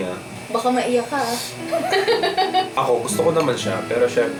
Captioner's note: laughs